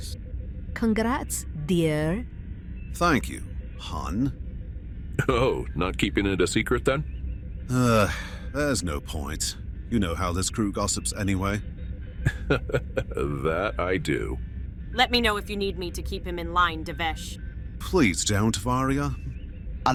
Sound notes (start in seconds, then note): 7.7 sigh; 12.2 chuckles